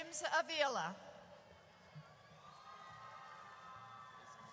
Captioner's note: audience cheers